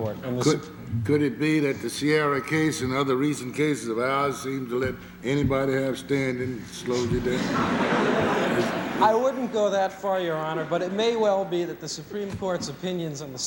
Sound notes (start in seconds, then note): 7.2 laughter